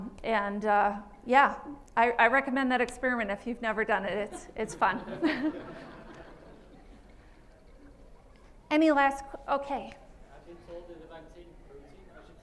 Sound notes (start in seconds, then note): 4.2 laughter